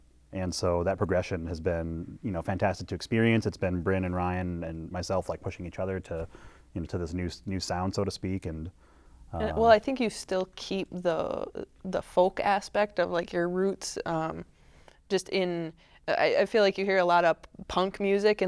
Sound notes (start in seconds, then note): none